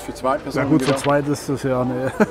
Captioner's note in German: lacht